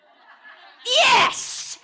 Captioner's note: audience laughing